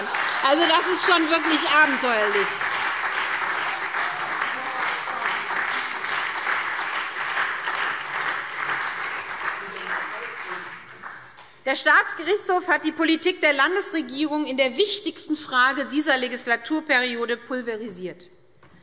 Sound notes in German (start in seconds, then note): 3.5 Heiterkeit und Beifall SPD und Freie Demokraten